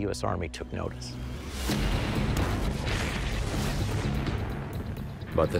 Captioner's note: artillery fire